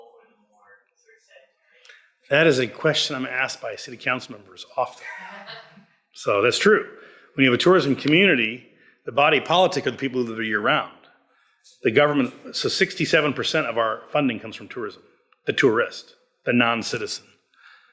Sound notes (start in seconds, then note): 5.0 laughs